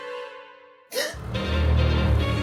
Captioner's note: gasps